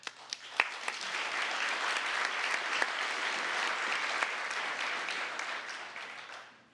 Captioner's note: applause